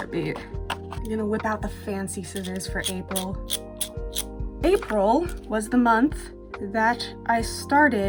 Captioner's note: snip snip